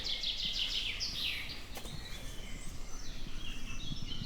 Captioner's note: birds chirping